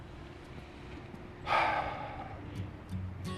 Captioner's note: slGHS